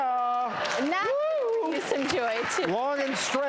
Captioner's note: audience applauds